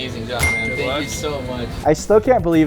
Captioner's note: bell dings